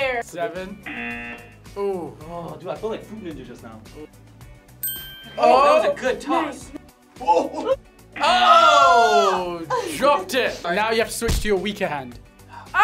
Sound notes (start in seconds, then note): 0.8 buzzer; 7.2 laughs